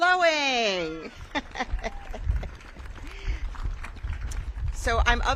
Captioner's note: audience cheers